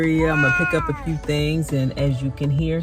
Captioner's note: meow